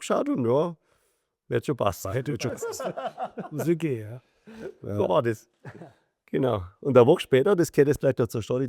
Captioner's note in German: gelächter